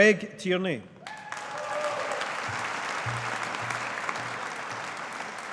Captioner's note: audience applauding